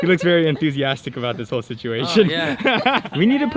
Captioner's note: laughs